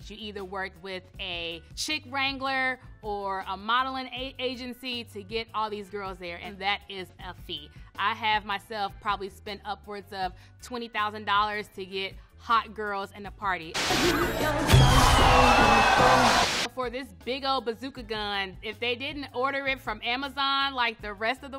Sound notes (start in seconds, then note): 13.7 lively party music; 13.8 confetti gun blasts; 13.8 crowd cheering